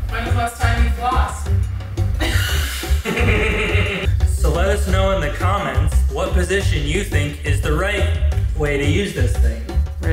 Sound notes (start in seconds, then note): 2.2 laughs